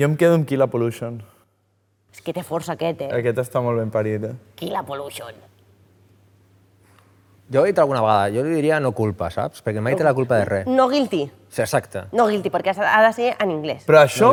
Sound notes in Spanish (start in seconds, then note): 4.3 voz chirriante